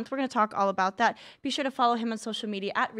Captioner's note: none